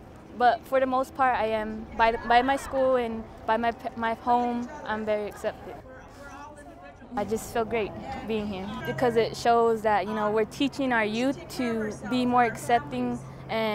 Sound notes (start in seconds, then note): none